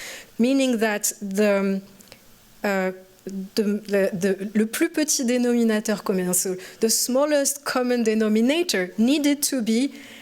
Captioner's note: french